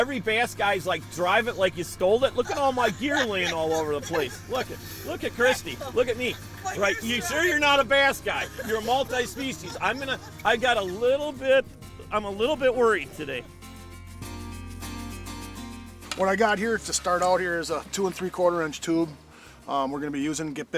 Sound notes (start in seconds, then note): 7.7 laughing